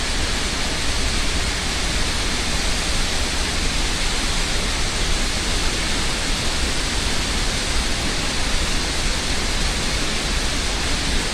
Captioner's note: sounds of the waterfall